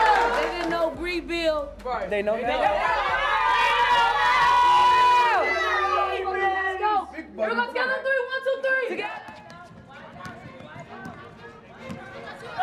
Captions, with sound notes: If they didn't know Brea Beal – They know now [cheering] – Big Body Benz – Together on three. One. Two. Three. –Together.